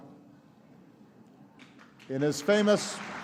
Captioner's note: applause